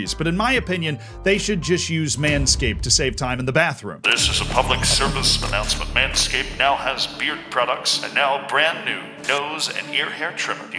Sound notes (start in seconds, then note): 4.0 Tannoy vocal effect; 4.0 tense music plays